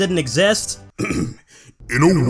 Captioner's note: ahem